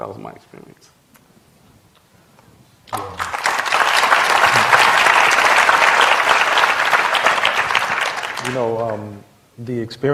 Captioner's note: applause